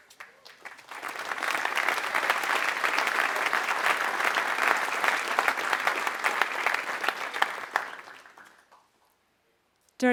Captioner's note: applause